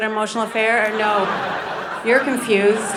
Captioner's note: audience laughing